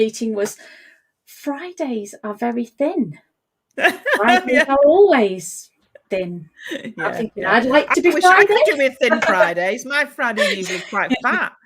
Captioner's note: laughs